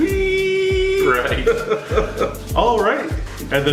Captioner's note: laughs